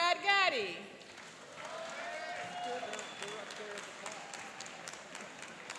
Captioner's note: cheering and applauding